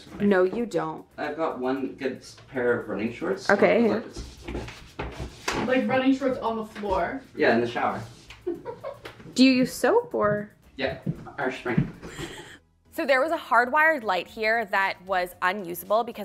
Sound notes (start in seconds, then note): 4.0 feet shuffling; 8.4 person chuckling; 12.0 person chuckling